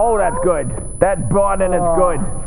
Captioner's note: high pitched ringing